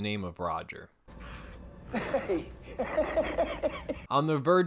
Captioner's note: laughing and wheezing; coughs twice